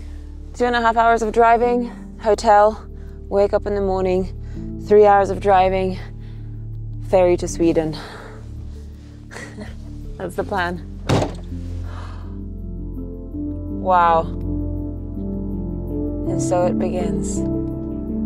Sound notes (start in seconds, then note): 9.3 chuckles; 11.0 door bangs shut; 11.8 exhales heavily